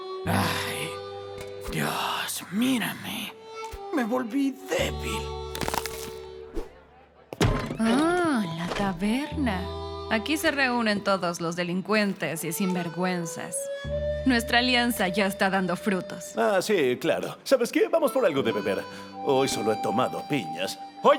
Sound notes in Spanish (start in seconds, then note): 5.5 crujido